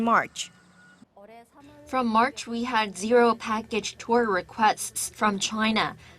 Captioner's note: Korean